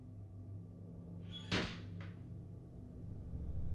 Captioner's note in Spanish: creak and bang